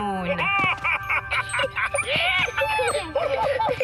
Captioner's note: excited laughter